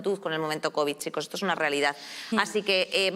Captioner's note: none